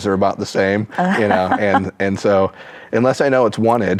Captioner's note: chuckles